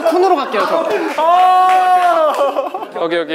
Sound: laughing

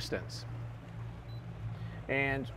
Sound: radar beeps

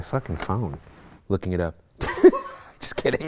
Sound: laughs

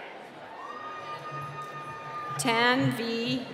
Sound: cheering

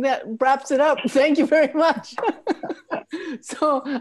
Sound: all laughing

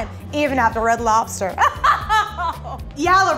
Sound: laughs

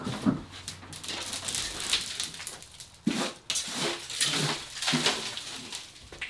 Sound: crinkling and shifting

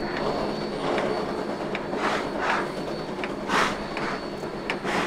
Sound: rotary chugging with locomotive slipping

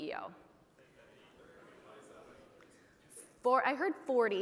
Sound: audience chattering

